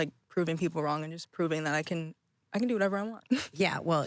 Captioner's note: laughing